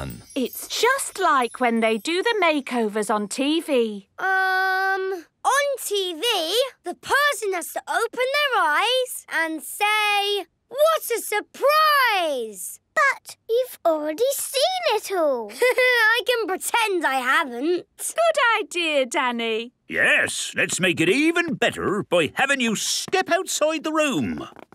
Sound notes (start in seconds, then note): 15.4 Danny laughing